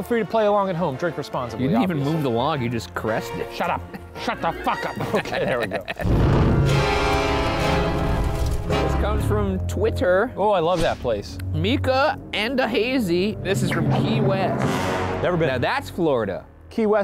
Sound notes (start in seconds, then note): 3.5 laughs; 6.0 intense creepy music; 6.0 smoke whooshing